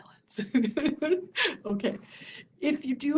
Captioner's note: laughter